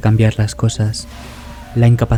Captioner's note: ambulance